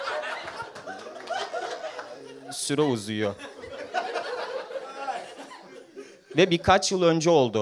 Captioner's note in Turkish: seyi̇rci̇ alkiş başlatmaya çalişiyor